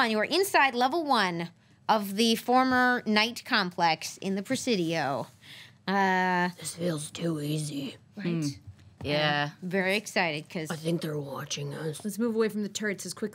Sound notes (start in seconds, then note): none